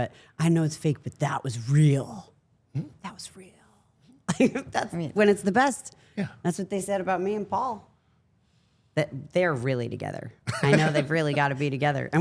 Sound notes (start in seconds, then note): 4.4 laughs